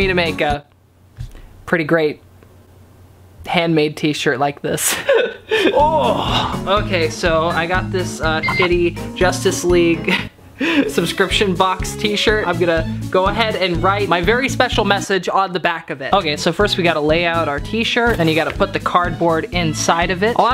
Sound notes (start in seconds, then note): 4.9 laughing; 5.7 groans; 8.4 beep